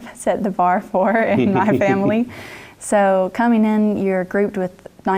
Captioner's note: laugh